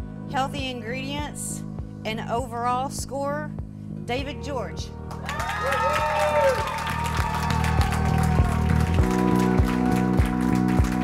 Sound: applause

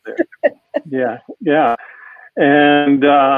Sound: chuckling

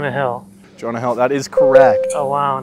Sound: correct sound

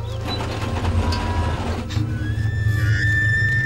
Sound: machines rumbling; screaming

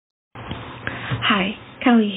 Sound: very low quality phone recording of ranting. lots of fan background noise

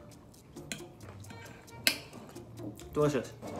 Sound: none

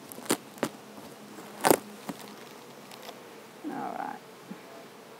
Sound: tape tears

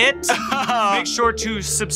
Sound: laughs

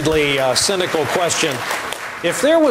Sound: applause

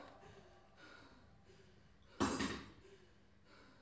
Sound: bride gasps; music pauses

